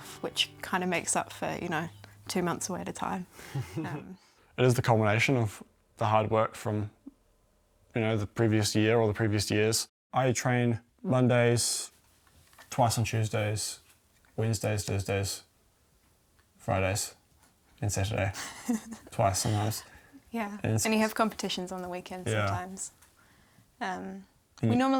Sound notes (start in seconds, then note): 3.5 chuckles; 18.3 giggles